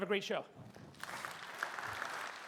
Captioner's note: audience applauding